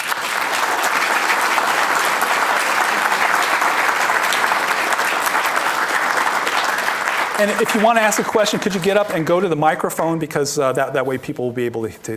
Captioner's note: applause